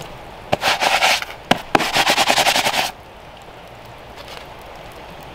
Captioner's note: gloves rustling